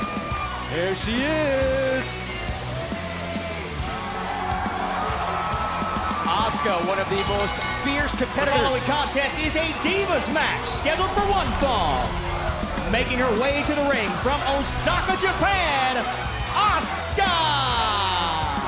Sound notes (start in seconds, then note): 0.0 cheers & applause; 5.5 cheers & applause; 7.0 bell